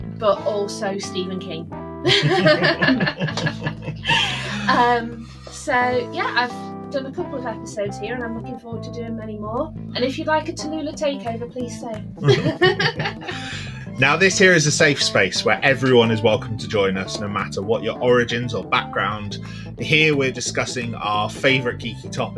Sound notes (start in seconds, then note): 2.0 laughter; 12.2 laughs